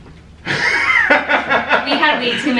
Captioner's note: laughter